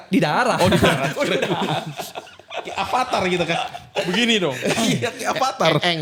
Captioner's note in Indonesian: tertawa